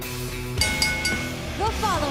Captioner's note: cheers and applause; bell ringing